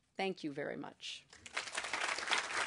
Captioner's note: applause